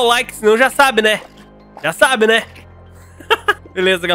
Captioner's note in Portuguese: risos